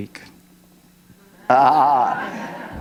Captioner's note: laughter